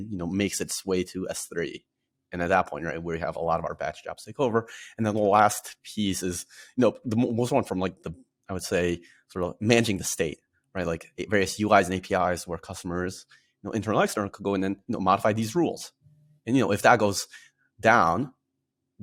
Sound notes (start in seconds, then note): none